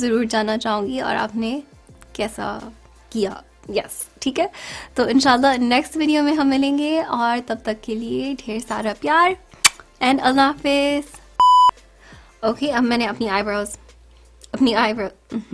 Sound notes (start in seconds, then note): 9.6 blows kiss